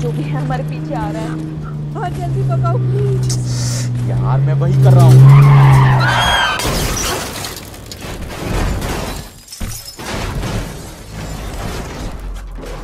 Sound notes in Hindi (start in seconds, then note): 5.9 स्नेहा की चीख